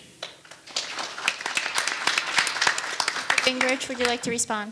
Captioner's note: audience applauding